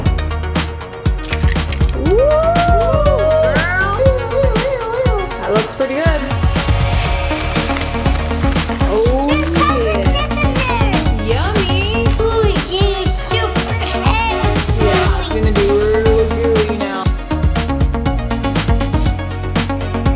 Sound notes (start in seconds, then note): 0.1 upbeat music; 9.3 murmurs; 17.4 upbeat music